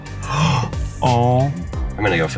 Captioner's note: gasps